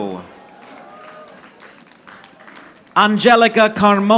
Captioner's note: audience applauding